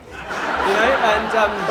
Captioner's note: laughter